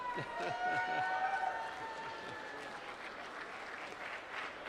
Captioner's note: applause